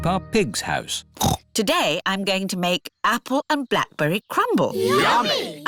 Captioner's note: snorts